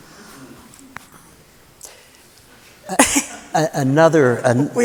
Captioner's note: laughter